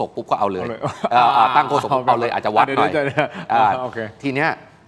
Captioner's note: laughs